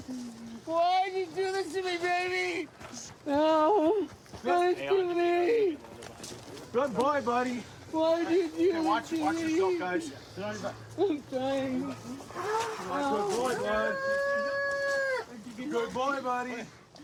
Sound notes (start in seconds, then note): 14.0 wails